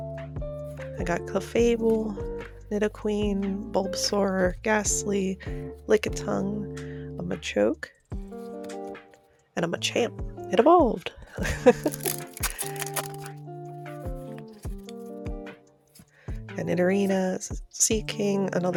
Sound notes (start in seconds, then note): 11.3 laughter